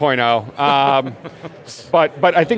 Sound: laughing

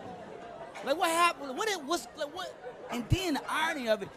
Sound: stuttering

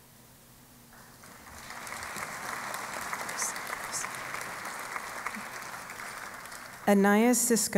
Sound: applause

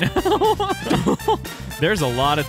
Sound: laughter

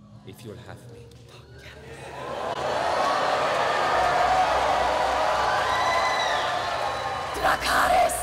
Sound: cheering

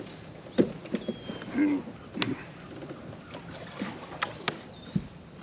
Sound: grunting

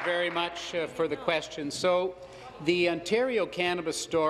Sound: applause

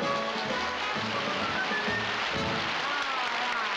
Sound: applause

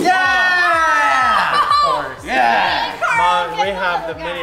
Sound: cheering

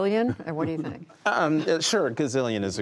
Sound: laughter

